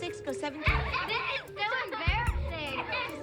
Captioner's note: laughter